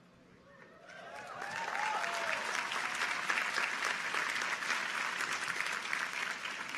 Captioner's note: people cheer; audience applauds